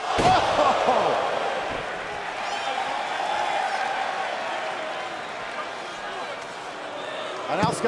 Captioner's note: crowd cheering